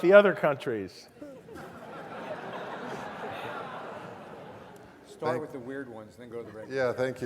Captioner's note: laugh